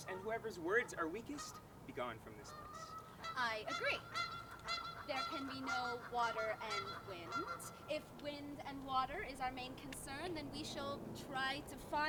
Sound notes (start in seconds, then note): 2.4 geese honking